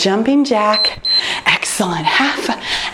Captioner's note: timer beeps